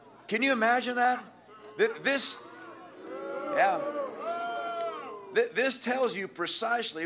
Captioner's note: booing